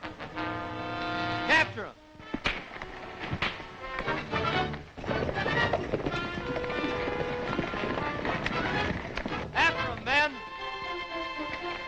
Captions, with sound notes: - Capture him. (punches thudding) (tense dramatic music) After him, men.